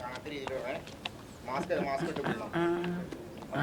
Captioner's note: indistinct chatter